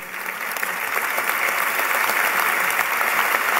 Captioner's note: applause